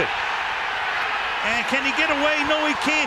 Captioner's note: cheering